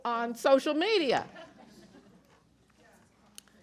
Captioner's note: chuckling